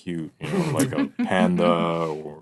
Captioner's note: laughing